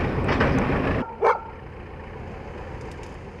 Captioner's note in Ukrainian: Звук тракторного двигуна; Гавкіт собак